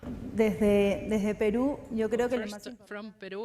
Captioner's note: speaks in foreign language